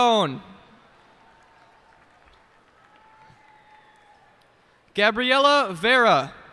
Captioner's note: cheers and applause